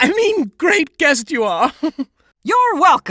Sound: laughs

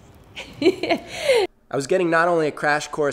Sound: laughs

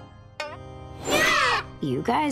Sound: shrieking

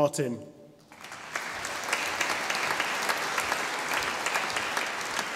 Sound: audience applauding

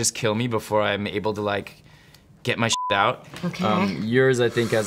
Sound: beep

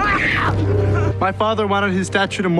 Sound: Carlos screams; intense music

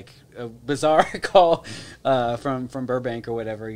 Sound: laughs

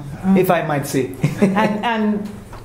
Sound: laugh

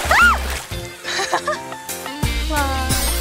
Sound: haha

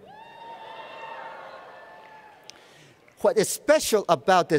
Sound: cheers and Applause

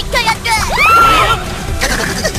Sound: screaming

